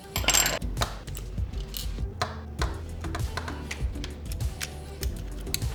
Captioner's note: controller parts snapping together